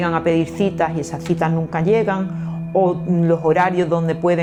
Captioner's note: none